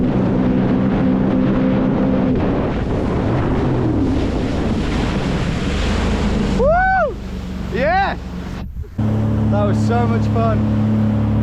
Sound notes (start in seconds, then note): 2.9 water splashing